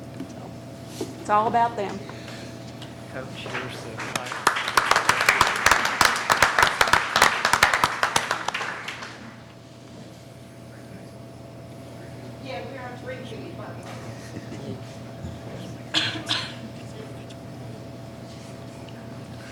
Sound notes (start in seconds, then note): 3.2 faintly speaking; 3.3 clapping; 10.8 faintly speaking